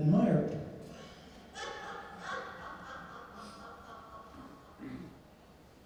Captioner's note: laughing